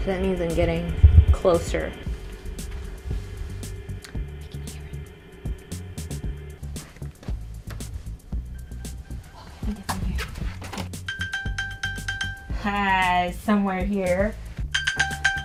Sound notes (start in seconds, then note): 2.0 whooshing sound; 8.5 phone ringing; 11.0 phone ringing; 14.7 phone ringing